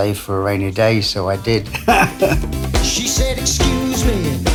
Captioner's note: laughs